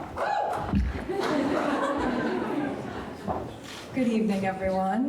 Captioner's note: audience laughing